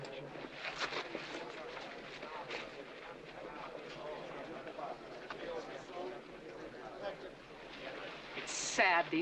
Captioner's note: crowd murmuring